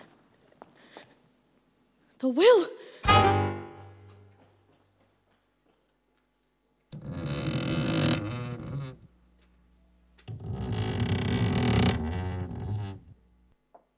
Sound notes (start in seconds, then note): 6.8 stairs creak